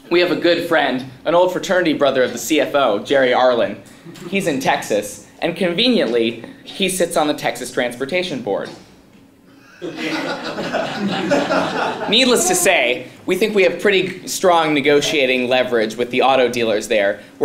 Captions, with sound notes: We have a good friend, an old fraternity brother of the CFO, Jerry Arlen. He's in Texas, and conveniently he sits on the Texas Transportation Board. >> [LAUGH] >> Needless to say, we think we have pretty strong negotiating leverage with the auto dealers there.